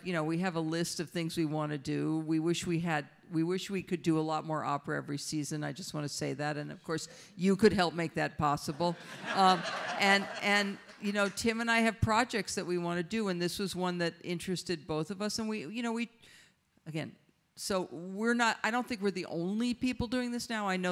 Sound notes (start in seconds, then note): 9.0 audience laughs